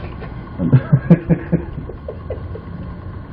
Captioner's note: laughing